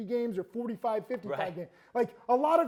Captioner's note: laughs